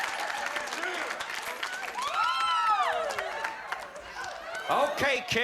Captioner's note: laughter